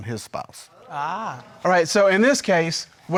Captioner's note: crowd murmurs